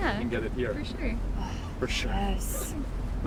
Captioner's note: April sighs